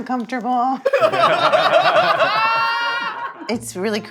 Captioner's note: everyone laughing